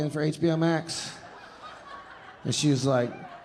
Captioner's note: audience laughing